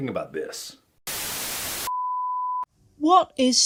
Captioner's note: static